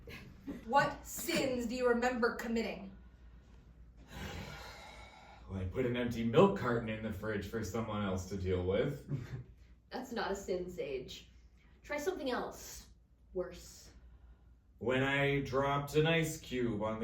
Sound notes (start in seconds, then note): 4.0 sighs